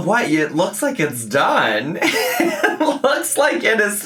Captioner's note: laughs